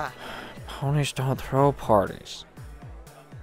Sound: gilda sighs

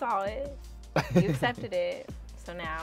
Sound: laughs

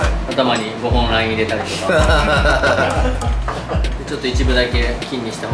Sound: laughter

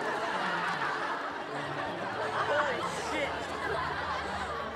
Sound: crowd laughing

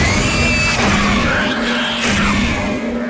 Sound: gunfire and pig noises; explosion

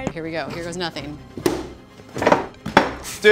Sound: baking pan plopping down; dough dropping

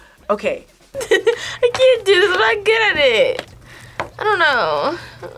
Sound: laughs

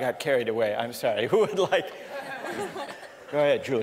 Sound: laughter

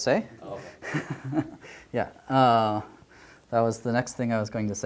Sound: laughter

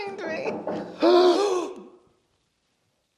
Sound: door Knocking; gasps

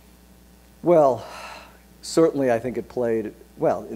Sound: sighs

